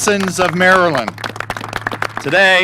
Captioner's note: applause